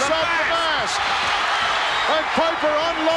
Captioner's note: audience cheers